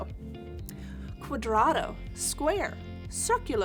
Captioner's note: speaking in Spanish